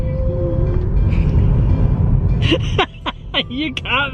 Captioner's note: laughing